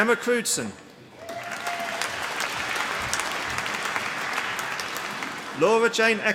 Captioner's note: applause